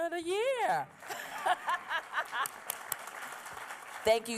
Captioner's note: applause; laughs